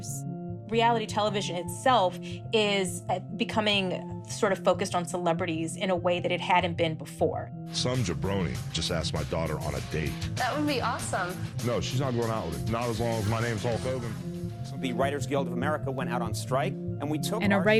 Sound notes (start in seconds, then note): 7.7 soundbite of tv show, "hogan knows best"; 12.9 soundbite of tv show, "conan"